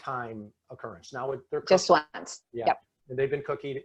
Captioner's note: speaking faintly